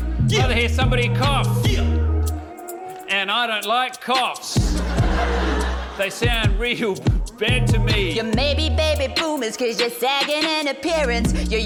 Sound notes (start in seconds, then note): 4.6 laughs; 4.6 laughter